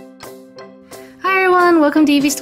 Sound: voiceover

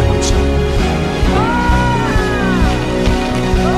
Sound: Morfin yells; happy ruckus

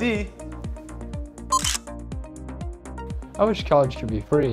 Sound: camera shutter clicking

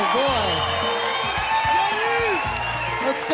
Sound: applause, cheering

